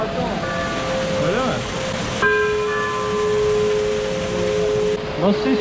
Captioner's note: bell sound